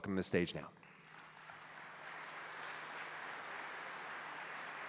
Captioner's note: applause